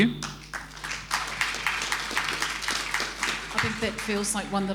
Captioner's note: applause